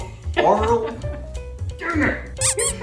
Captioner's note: seal barking sounds?